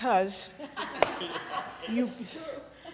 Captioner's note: audience laughing